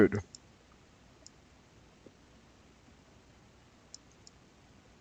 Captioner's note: mouse clicking